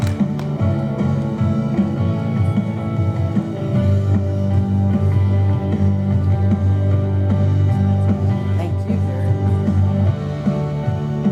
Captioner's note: applause